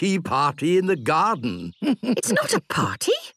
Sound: chuckles

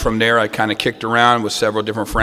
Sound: none

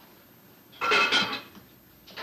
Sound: pot clanks

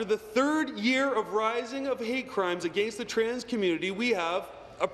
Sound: none

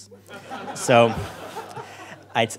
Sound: crowd laughter

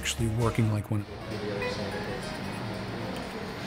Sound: people chattering

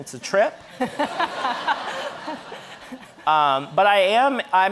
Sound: audience laughing

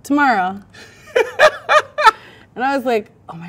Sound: man laughs

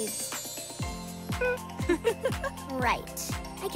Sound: laughing

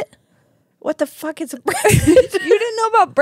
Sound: laughs

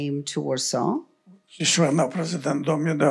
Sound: foreign language

